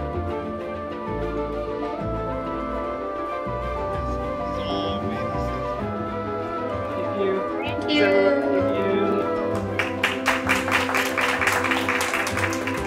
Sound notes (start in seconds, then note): 4.9 indistinct conversation; 9.4 applause